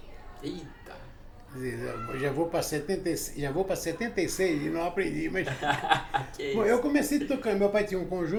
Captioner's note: laughs